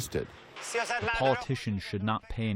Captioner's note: through translator